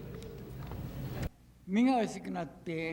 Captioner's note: boo; speaking Japanese